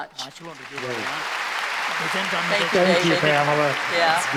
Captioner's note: applause